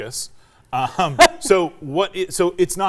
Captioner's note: chuckles